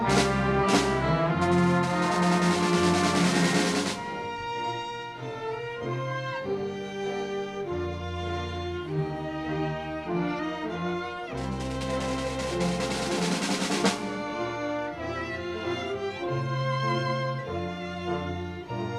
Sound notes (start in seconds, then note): 0.0 bagpipe music playing; 3.3 crowd cheering and clapping